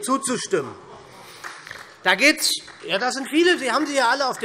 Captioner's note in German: Beifall